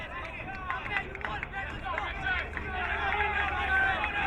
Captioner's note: crowd clapping